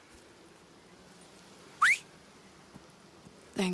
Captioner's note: Arthur whistles for his horse, Baldur